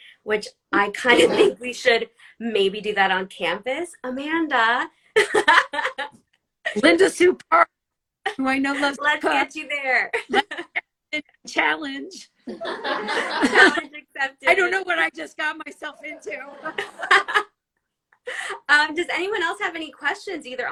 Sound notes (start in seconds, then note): 5.5 laughs; 10.2 laughs; 12.5 all laugh; 15.8 all laugh